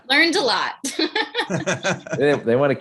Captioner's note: laughs